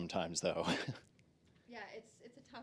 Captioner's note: chuckling